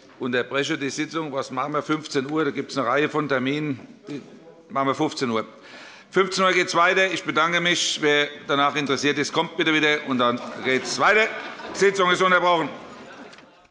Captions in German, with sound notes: Ich unterbreche die Sitzung. Um 15 Uhr geht es weiter. Ich bedanke mich. Wer danach noch interessiert ist, der komme bitte wieder. Dann geht es weiter. Die Sitzung ist unterbrochen. [Heiterkeit - Unterbrechung von 12:46 bis 15:02 Uhr]